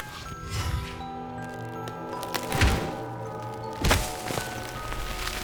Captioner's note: time dialation, wood cracking